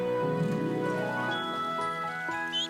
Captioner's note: chirping